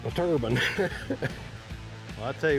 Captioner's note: laughs